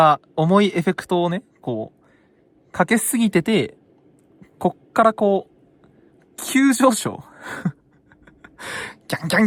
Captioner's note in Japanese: 笑い